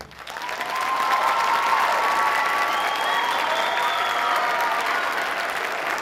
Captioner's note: audience cheering and applauding